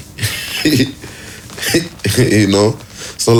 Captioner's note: laughs